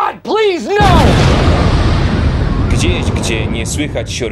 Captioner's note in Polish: boom!